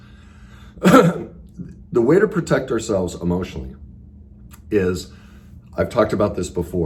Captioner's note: coughs